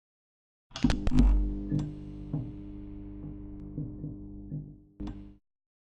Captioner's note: electricity flickering on and off